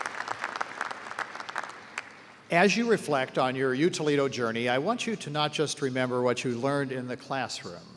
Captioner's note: applause